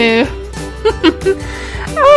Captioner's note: laugh